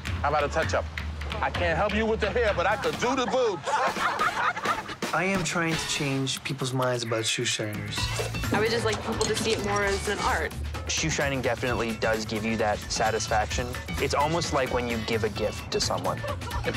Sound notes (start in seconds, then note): 2.6 laughing